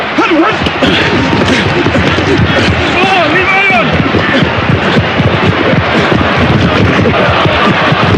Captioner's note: grunting